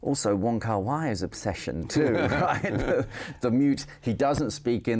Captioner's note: both laughing